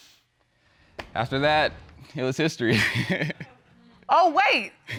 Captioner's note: laughs